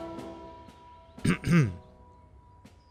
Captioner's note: coughs